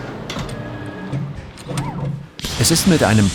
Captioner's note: mechanical sound